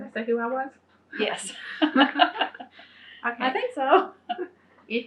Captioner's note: laughs